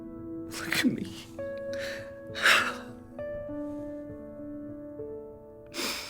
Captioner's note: crying